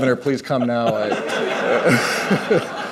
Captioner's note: laughter